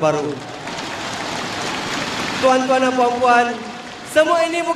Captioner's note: crowd cheering